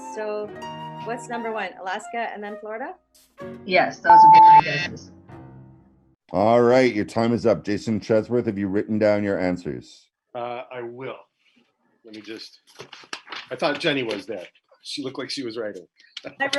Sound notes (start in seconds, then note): 3.9 beep